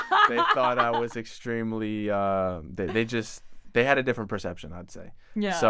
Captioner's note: laughs